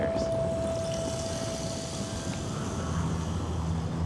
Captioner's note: wind blowing